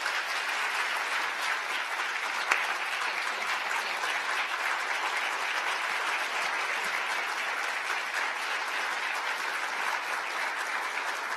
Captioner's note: applause